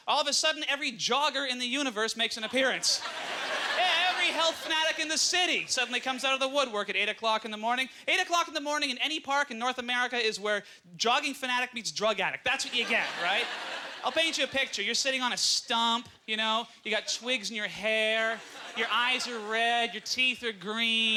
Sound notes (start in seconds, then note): 2.5 audience laughter; 15.1 aududnce laughter